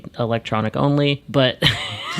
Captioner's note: laughs